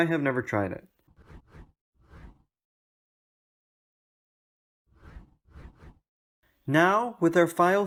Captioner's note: transition swooshes